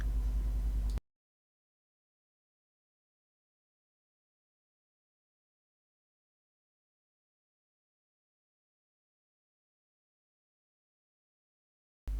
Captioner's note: coffee sound